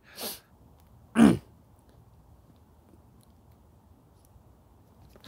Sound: clearing throat

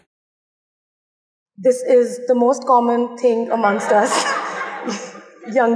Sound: laughter

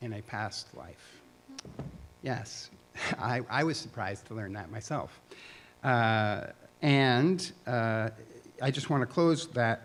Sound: chuckle

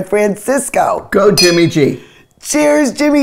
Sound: glasses clink

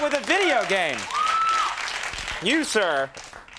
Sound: crowd cheers

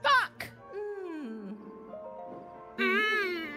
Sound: Great Fairy Goes “Mmmm”; Penny Mimicks “Mmmm”

